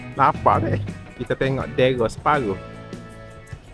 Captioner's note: mourning